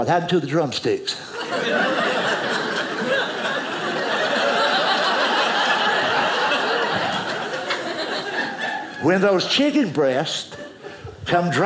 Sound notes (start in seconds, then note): 1.3 audience laughing